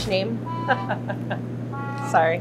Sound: laughs

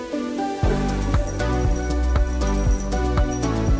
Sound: tinkling bell

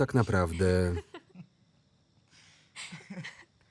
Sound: laughter

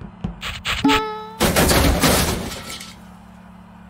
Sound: big crash

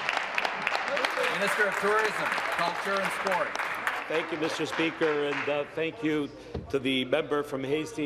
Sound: applause

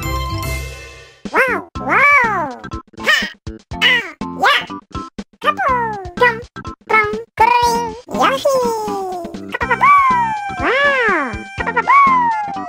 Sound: mysterious language

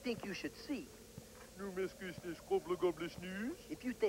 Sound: speaking swedish

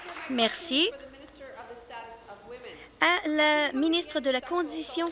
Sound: applause

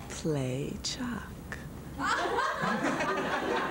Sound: laughter

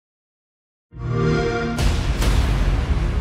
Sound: Xbox Sound

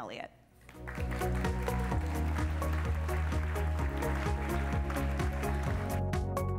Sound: applause; upbeat fun music

